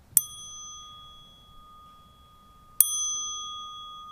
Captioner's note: wind blowing; glass dinging